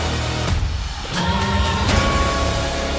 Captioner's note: bell tolls